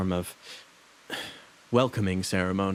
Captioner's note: sigh